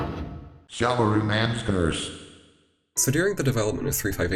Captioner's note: text to speech